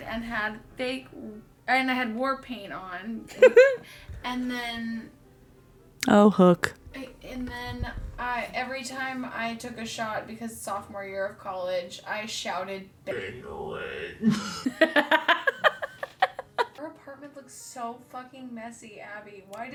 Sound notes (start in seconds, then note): 14.3 laughs